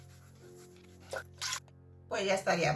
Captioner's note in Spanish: sonido de agua